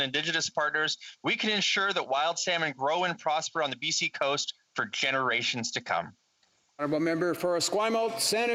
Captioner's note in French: voix de l'interprète